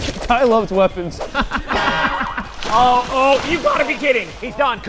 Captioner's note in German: lacht